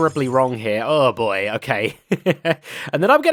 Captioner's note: laughs